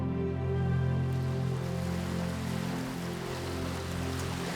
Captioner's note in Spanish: olas del mar en la orilla